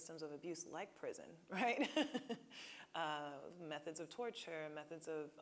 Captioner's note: laughing